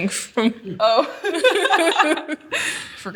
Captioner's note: both laugh